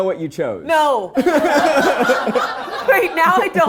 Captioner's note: all laughing